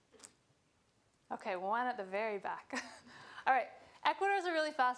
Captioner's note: chuckling